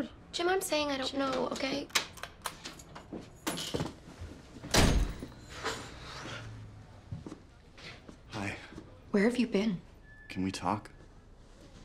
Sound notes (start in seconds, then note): 2.2 door unlocking; 4.7 door slams